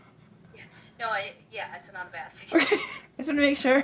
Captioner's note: laugh